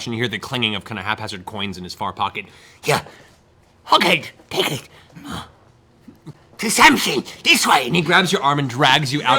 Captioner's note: grunts